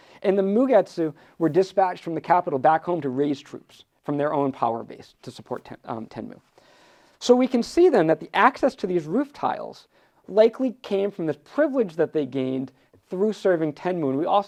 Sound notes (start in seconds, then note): none